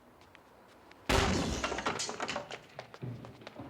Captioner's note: bangs